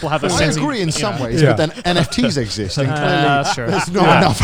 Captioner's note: laughs